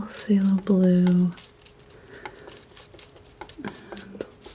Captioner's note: tapping